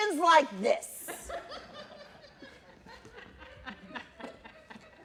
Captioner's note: laughter